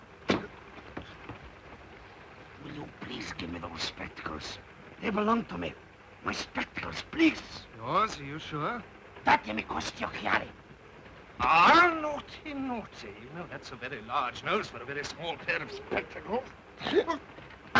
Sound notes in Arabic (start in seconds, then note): 9.3 دوبو يتحدث لغة أجنبية